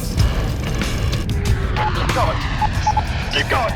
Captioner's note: aircraft engine roaring